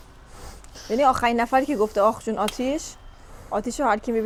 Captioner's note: snorting sound